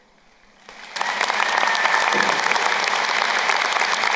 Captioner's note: crowd applauding